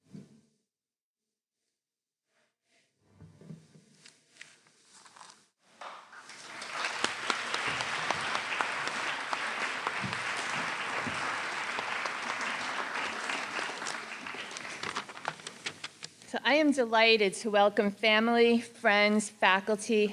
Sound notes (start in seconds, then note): 5.8 applause